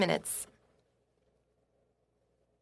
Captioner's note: speaking French